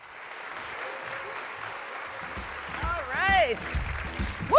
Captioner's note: audience applauding